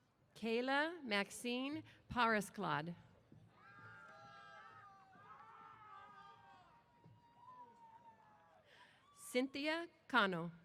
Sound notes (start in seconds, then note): 3.6 cheers